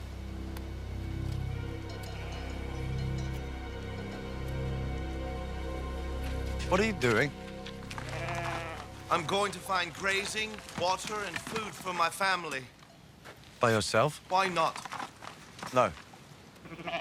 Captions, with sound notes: WHAT ARE YOU DOING? (goats bleating) I'M GOING TO FIND GRAZING, WATER AND FOOD FOR MY FAMILY. BY YOURSELF? WHY NOT? NO. WE STAY TOGETHER.